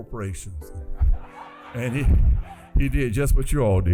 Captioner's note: laughter